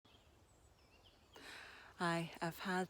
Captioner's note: birds chirping